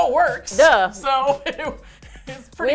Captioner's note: laughs